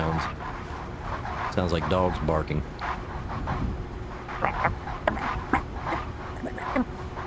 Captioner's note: sounds like dogs barking